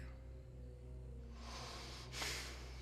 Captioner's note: tense music; Tyler inhales; Tyler exhales